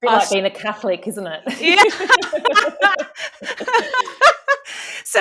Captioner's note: both laughing